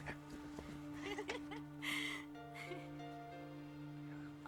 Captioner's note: giggling